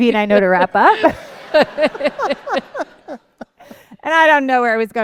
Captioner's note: laughter